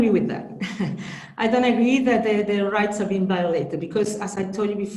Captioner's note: chuckles